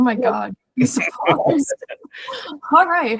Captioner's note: laughs